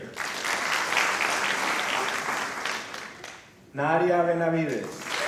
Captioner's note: applause